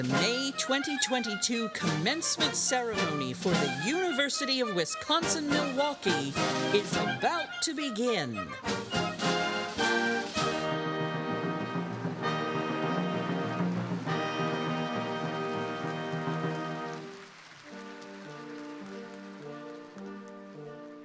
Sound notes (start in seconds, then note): 8.9 bright music; 16.9 crowd applauding; 18.4 bright music